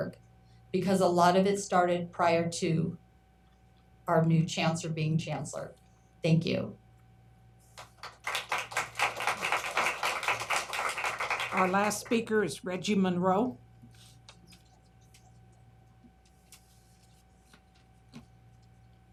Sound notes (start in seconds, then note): 12.3 applause